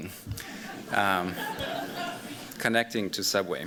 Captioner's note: laughter